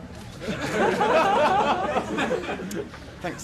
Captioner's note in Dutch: publiek lacht